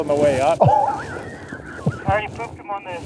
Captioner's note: laughter